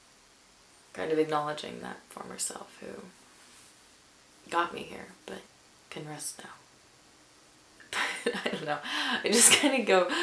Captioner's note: chuckles